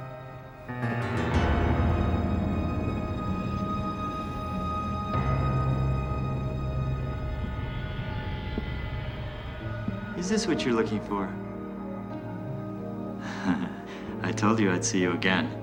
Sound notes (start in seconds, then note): 8.2 footsteps approaching; 13.2 chuckles